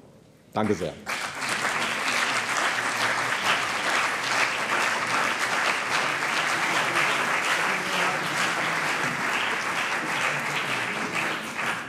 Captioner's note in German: Beifall CDU und BÜNDNIS 90/DIE GRÜNEN